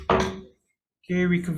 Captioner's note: gavel bangs